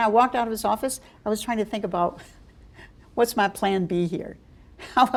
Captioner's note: chuckle